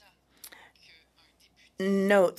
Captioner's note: speaking French